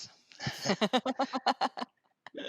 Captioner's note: laughter